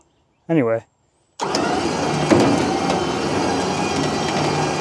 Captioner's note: machinery humming